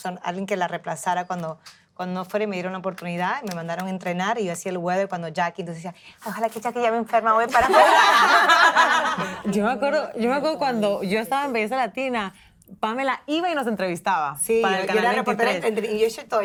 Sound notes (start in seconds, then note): 10.4 laugh